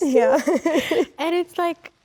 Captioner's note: Rachel laughs